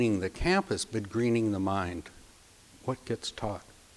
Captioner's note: none